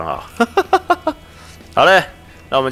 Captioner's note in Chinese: 笑聲